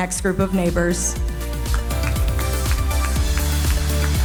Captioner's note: audience applauding; upbeat cheerful music continues